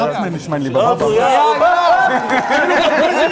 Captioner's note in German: Gelächter, Jubel